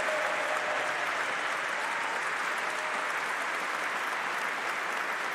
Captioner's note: applause